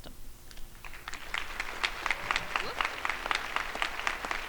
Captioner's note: crowd applauding